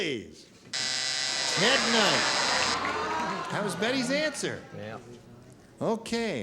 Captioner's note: buzzer